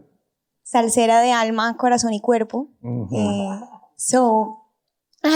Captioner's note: speaking in foreign language